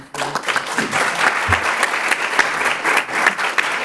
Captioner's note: applause